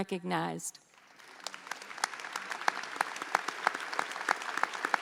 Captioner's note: audience applauds